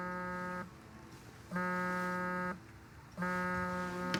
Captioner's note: phone vibrating